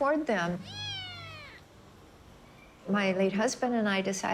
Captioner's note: kitten mews